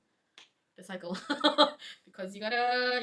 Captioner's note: chuckles